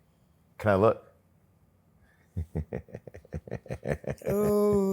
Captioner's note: laughs